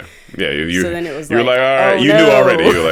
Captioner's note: chuckles